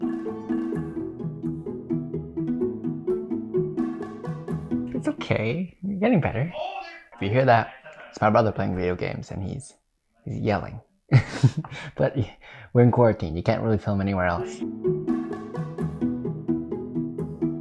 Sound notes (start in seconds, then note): 0.0 upbeat music; 7.0 distant yelling; 14.4 upbeat music